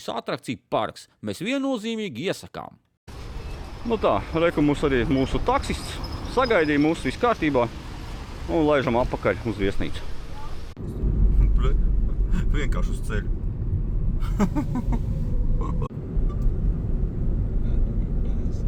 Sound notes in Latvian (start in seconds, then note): 14.2 smiekli